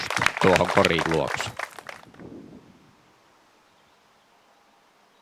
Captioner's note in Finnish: Aplodeja